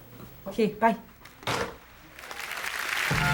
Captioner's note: phone slamming down; audience applauding